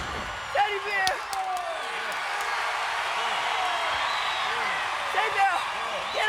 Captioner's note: applause